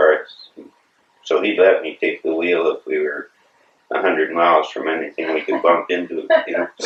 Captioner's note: laughter